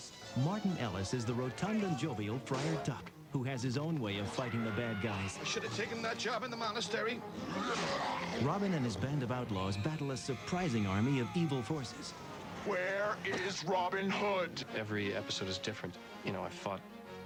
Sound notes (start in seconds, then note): 7.2 snarling; 12.8 deep "possessed" voice